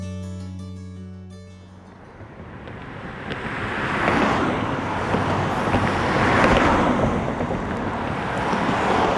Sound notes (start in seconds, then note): 4.1 cars passing